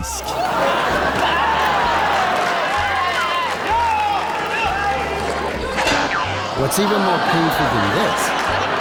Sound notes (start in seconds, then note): 0.1 raucous laughter from the audience